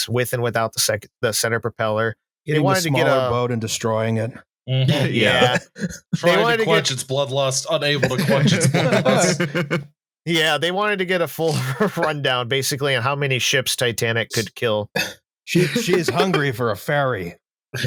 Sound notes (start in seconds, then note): 7.9 laughter; 15.6 laughter